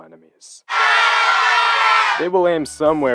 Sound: people riot

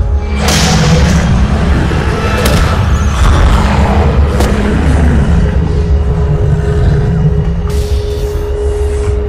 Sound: roars with pain

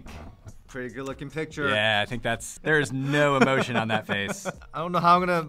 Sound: laughter in the background

